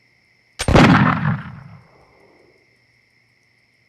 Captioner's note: gun shot